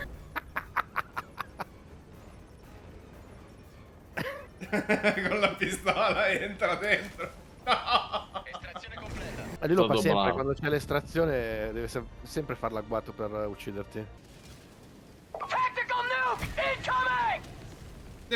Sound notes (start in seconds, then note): 7.7 confused laughter